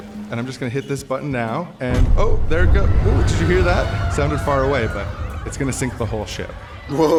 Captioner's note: boom